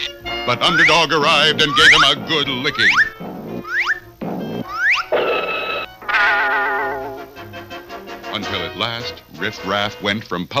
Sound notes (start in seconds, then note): 0.0 baby Cries; 6.0 crash!